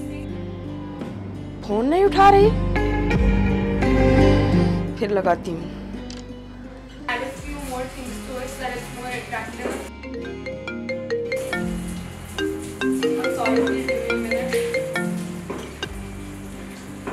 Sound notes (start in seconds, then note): 12.3 Phone ringing